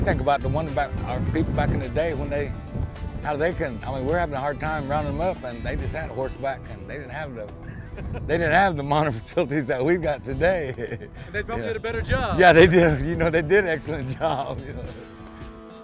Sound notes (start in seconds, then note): 7.5 laughing